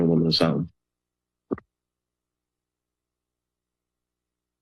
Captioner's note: silence